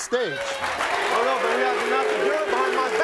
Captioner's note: audience clapping and cheering